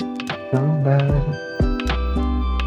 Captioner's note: humming